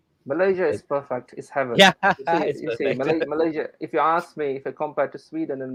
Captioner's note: ketawa